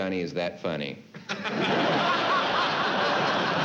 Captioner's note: laughter